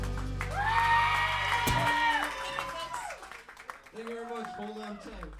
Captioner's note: cheering and clapping